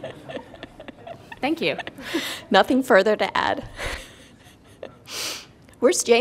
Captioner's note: laughter